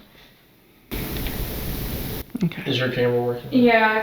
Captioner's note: ambient static hissing